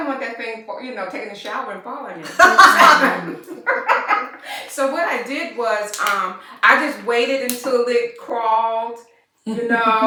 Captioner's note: laughter